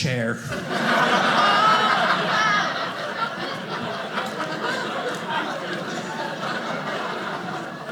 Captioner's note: audience laughing